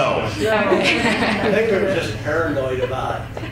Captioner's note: chuckles